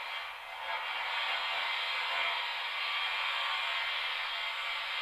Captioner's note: static hissing continues